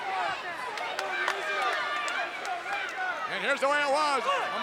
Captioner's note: crowd yelling